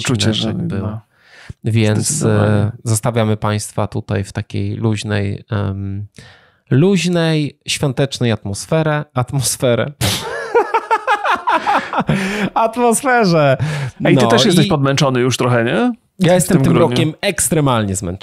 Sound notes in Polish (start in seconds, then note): 10.0 śmiech